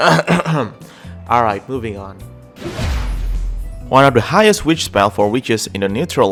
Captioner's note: clears throat